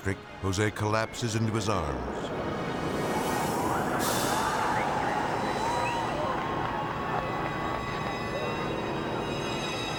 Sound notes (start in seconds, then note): 2.9 people cheering